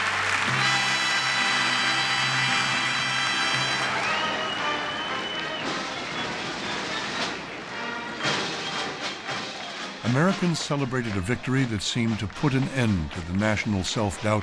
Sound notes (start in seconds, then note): 3.6 whistling